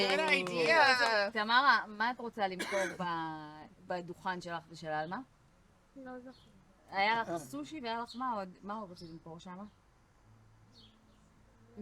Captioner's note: speaking Hebrew